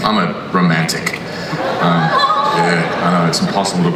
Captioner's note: audience laughs